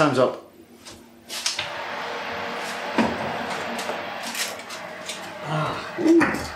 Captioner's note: oven roarin